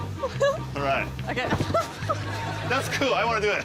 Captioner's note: laughs